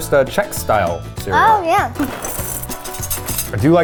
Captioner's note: cereal rustling